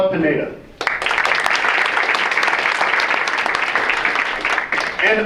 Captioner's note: audience applauds